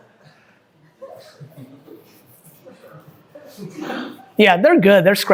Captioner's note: group chuckling; group murmuring